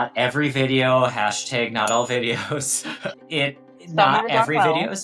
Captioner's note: text chiming